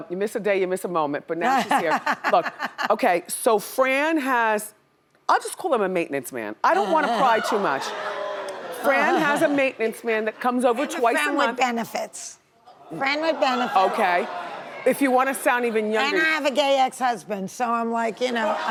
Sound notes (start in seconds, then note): 2.2 laughs; 6.7 audience laughing; 12.9 audience laughing